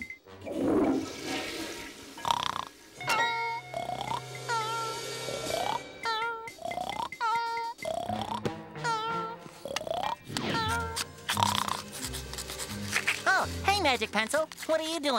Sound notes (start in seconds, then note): 0.4 toilet flushing; 2.0 snoring